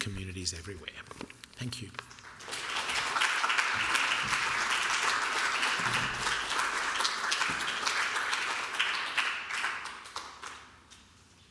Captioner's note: applause